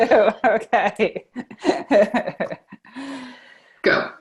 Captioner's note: laughs